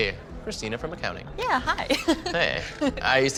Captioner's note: laughing